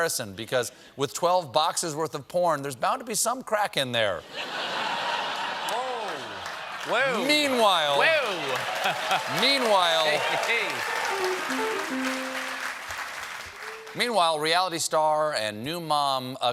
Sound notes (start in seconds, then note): 6.7 laughter